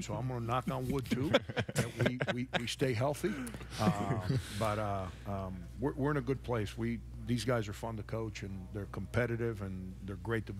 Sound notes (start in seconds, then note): 3.4 all laughing